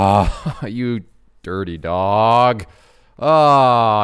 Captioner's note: chuckles